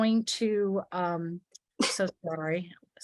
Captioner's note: sneeze